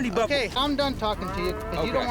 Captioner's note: cows mooing